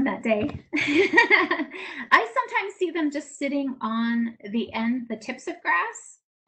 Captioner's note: laughs